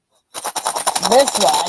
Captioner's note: loud rattling